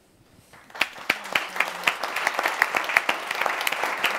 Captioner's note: audience applauds